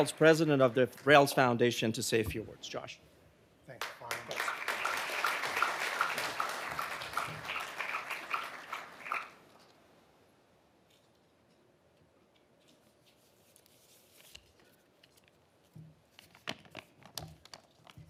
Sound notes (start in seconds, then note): 3.8 audience applauding